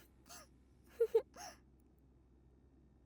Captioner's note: laugh